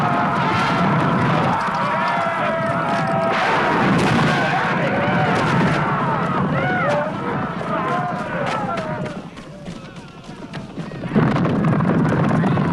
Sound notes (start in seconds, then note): 0.0 raiders shout; 0.2 horse hooves pounding; 3.5 bow twangs